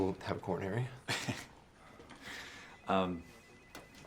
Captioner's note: laughs